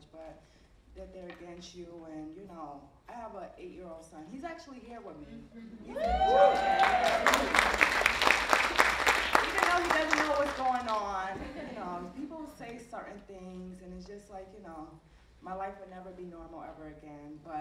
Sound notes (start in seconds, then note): 5.9 audience cheering; 5.9 audience applauding